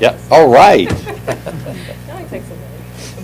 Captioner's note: laughter